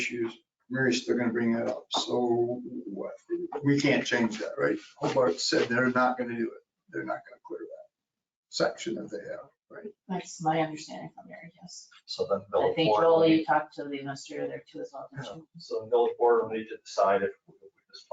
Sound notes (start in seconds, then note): 14.9 speaking faintly